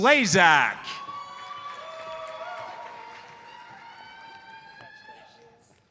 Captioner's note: audience cheers and applauds